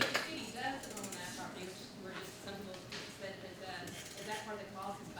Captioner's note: faintly speaking